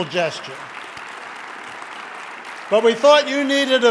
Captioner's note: applause